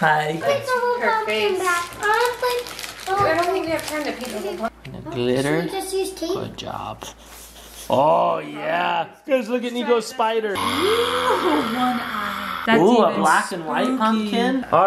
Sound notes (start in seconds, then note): 10.5 growls